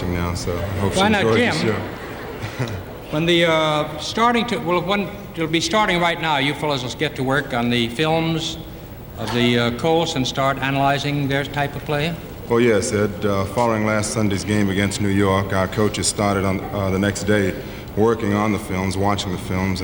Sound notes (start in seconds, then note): 0.4 audience laughing